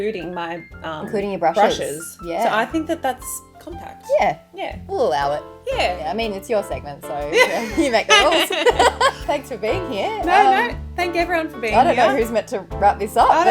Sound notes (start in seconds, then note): 7.3 both laughing